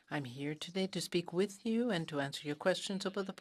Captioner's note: speaking in French